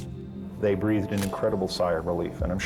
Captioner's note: camera shutter click